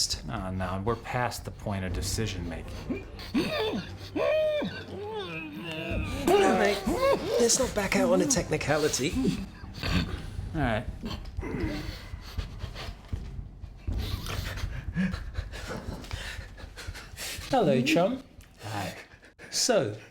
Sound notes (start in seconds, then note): 4.5 groaning; 10.9 whimpering